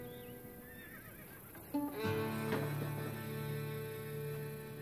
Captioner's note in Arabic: صهيل الحصان